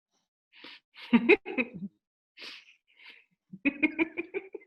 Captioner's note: laughing